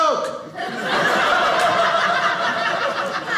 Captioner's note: audience laughing